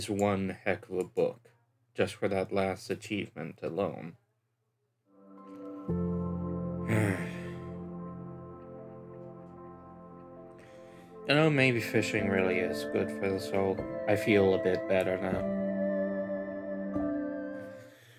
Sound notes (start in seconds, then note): 4.7 sigh